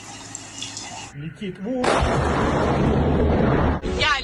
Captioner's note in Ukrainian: вибух